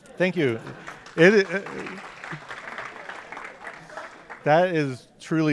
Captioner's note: applause